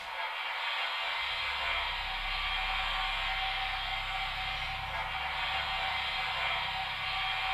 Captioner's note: gentle eerie music; static hissing